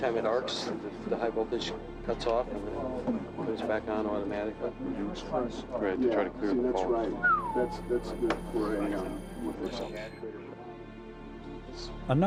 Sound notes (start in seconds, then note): 7.2 navigators chattering; 7.2 navigator whistles